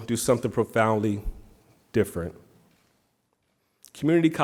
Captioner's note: none